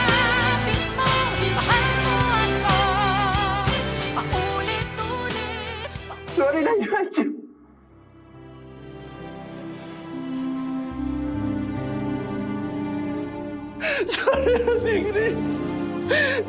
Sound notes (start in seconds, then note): 7.5 somber music playing; 13.8 sobs